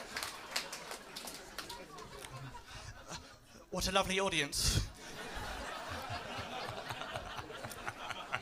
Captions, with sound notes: What a lovely audience. [LAUGHTER]